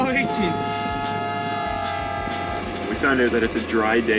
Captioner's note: train whistle